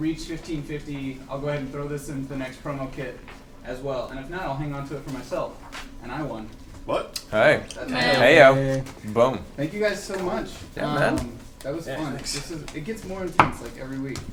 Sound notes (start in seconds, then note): none